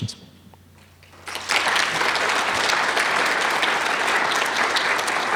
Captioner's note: audience applauding